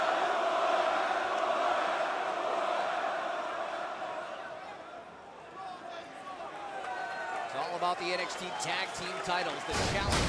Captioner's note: crowd chatter